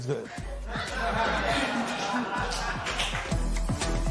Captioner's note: spectators laugh